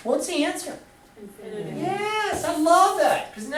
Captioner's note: voiceover